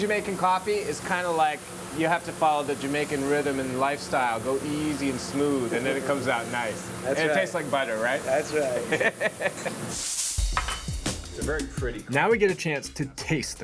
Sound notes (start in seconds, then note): 8.8 laughs